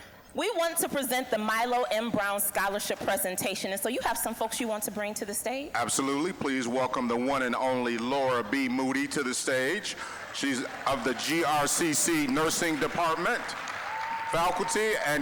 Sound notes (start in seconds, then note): 8.9 applause